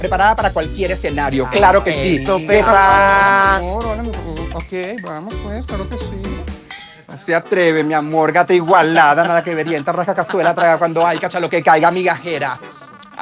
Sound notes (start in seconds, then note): 4.0 mumbles in horny